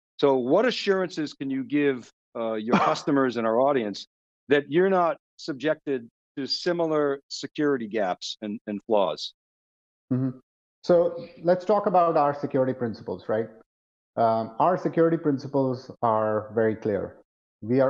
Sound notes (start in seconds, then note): 2.5 coughs